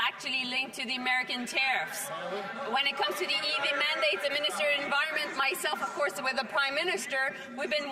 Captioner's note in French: voix de l'interprète